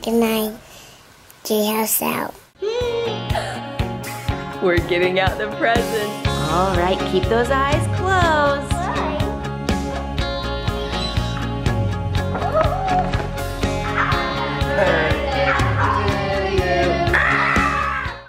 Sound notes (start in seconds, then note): 3.0 exclaims; 10.5 upbeat music; 13.8 exclaims; 17.0 screams playfully